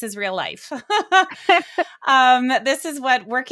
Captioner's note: both laughing